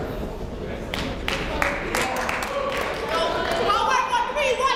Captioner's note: crowd clapping